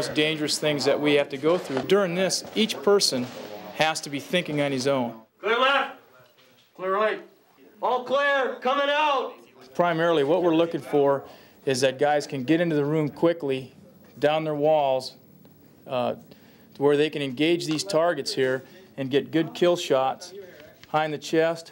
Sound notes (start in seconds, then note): 5.5 voiceover